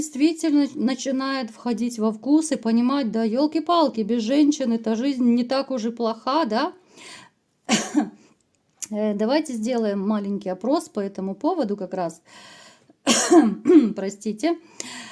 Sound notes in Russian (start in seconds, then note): 13.0 кашель; 13.1 откашливается